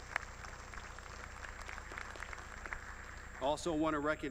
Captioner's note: applause